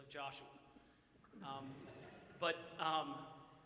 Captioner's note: audience chuckles